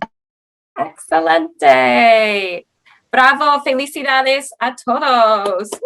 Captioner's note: speaking Spanish